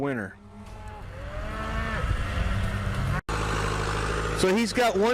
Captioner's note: cattle and tractor sounds